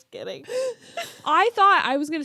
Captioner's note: both laughing